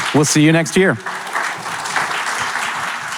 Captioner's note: audience applauding